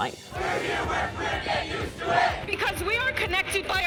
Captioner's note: crowd